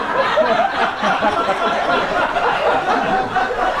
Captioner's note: audience laughs too hard